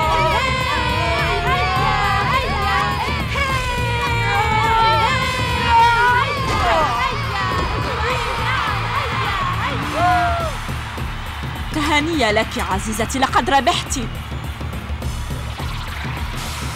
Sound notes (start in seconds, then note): 11.2 cheering